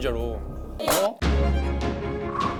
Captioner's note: smack!